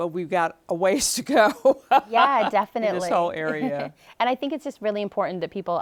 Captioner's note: laughing